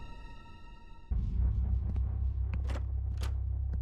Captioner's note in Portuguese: passos misteriosos